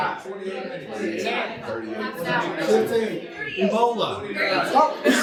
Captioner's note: audience answering